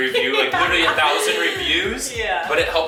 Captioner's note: laughs